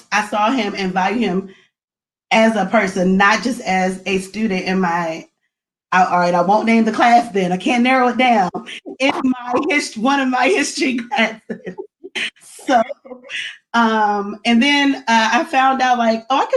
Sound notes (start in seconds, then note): 10.9 laughs